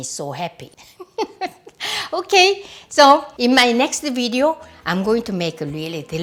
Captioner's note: laughs